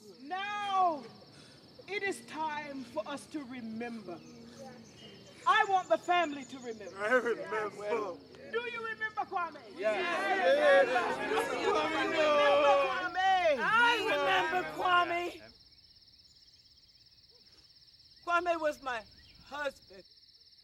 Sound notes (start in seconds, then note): 0.0 people praying; 10.1 group responds